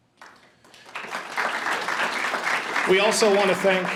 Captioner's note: audience applauds